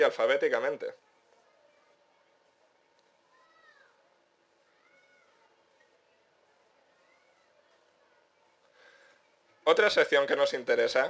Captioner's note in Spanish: pausa 3s